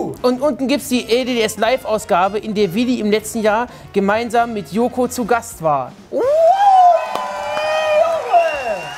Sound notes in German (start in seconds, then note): 6.1 Jubel